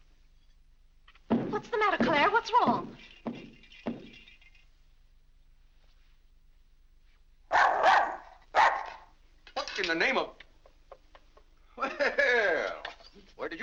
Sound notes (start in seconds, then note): 1.1 foot stomping; 3.1 lights rattling; 7.5 dog barks; 11.6 laughs